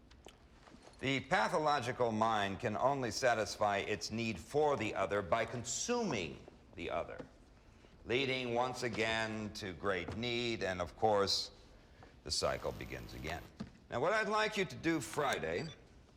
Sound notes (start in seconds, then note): 13.0 phone vibrates